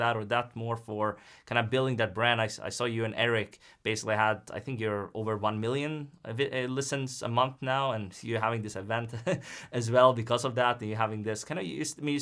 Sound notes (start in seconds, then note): 9.1 chuckles